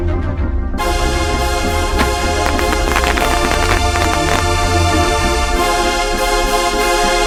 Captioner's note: tense music; electricity crackling